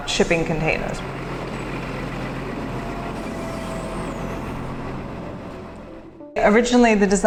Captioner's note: machinery sound